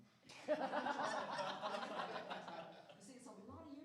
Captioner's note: laughter